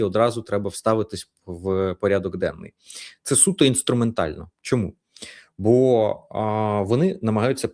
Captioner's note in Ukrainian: сопіння